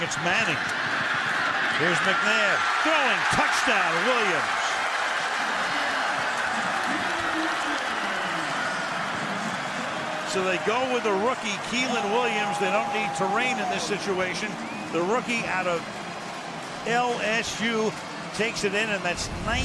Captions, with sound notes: considering it's Manning. Here's McNabb throwing. Touchdown, Williams. [cheering] So they go with the rookie Keiland Williams. They don't need Torain in this situation. The rookie out of LSU takes it in.